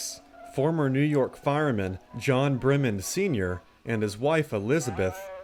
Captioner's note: voiceover